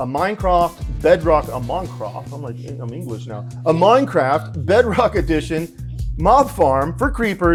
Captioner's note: bad English accent